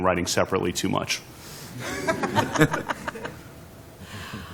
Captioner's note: laughter